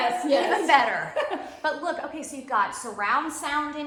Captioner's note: laughing